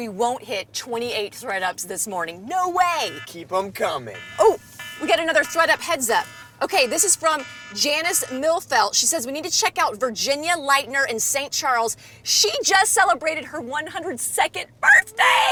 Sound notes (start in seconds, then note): 3.8 alarm buzzing